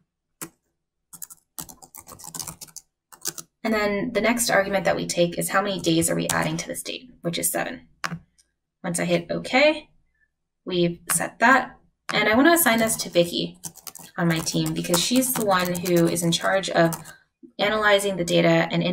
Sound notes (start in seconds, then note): 1.5 keyboard clanking